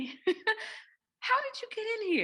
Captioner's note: giggles